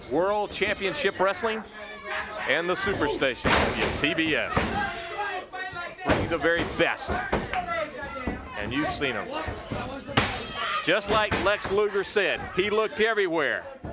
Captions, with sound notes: World Championship Wrestling (body thudding) and the super station, TBS. (footsteps plodding) Bring the very best and you've seen 'em. (hands thudding) Just like Lex Luger said, he looked everywhere